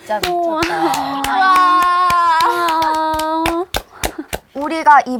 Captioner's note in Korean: 박수 갈채